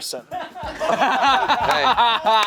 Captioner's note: everyone laughing